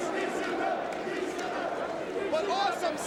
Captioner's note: crowd chanting